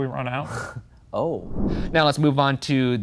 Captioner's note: logo whooshing